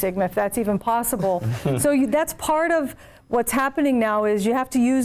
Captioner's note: laugh